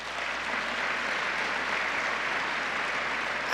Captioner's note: applause